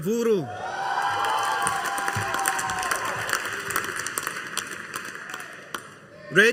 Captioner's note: audience applauding